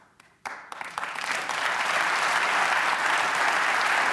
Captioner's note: applause